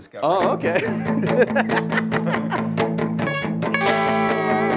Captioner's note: laughing; upbeat music